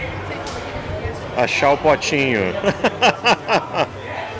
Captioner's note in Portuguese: risos